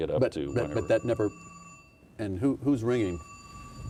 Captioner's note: phone ringing